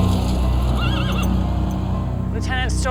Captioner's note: horse neighing